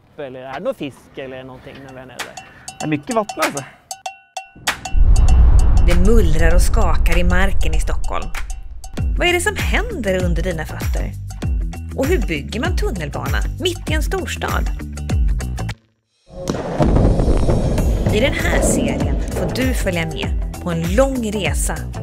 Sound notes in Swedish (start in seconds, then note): 16.3 Explosion